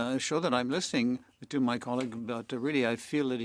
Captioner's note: speaking French